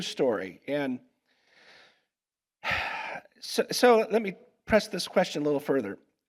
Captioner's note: sighs